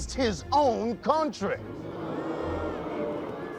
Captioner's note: booing